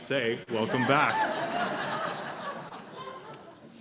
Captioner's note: laughter